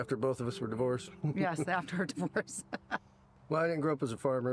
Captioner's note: laughs